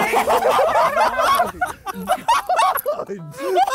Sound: Sidemen laughing

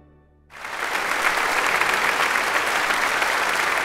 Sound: audience applauds

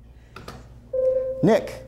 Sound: buzzer sounds

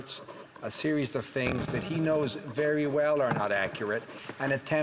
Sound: speaking French

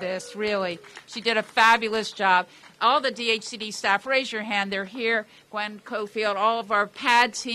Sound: applause

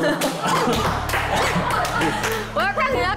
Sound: just laughs now

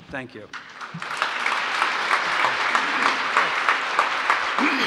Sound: applause

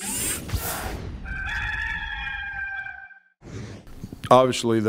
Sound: rooster crowing

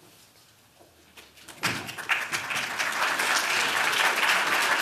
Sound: applause

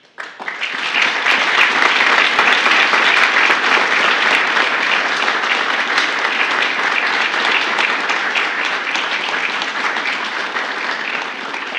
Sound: applause

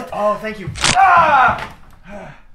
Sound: neck snap

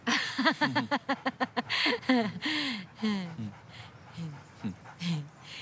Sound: laughter

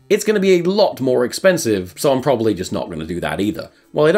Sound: none

